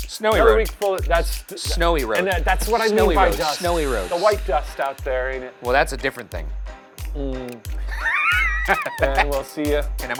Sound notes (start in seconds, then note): 7.8 laughs